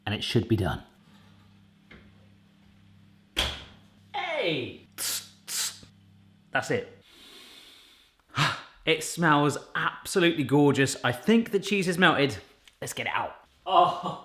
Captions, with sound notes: and it should be done. Hey! That's it. (inhaling) It smells absolutely gorgeous. I think the cheese has melted, let's get it out.